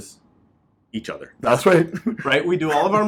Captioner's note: laughs